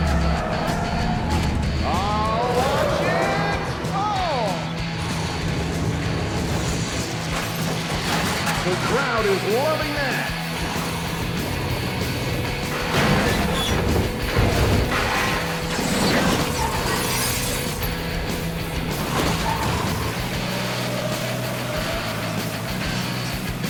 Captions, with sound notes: (tires squealing) Oh, watch it! Oh! The crowd is loving that. (metal scraping and creaking) (tires squealing)